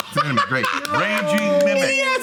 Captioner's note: laughing